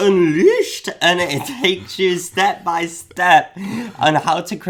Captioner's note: chuckles